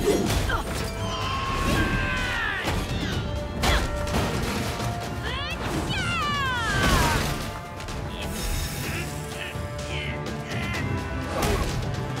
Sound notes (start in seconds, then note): 0.6 yells; 5.8 exclaiming; 8.3 grunting